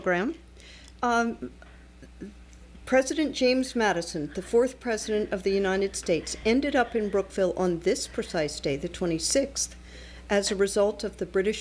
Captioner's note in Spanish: Hablando ingl\s